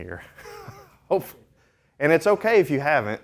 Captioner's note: laughing